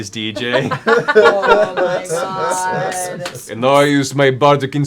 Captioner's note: laughter